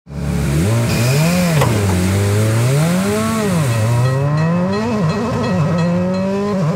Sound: engine revving

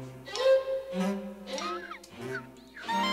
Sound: chirping

